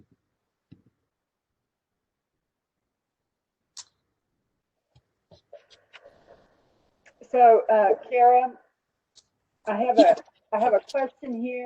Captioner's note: silence